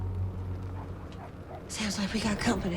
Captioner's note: dog barking in distance; car approaching